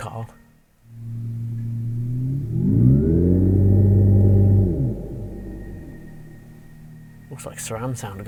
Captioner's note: car EV Rev Sounds